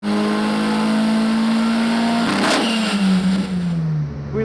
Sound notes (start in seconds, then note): 0.0 engine roars